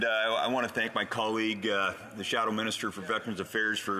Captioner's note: speaking French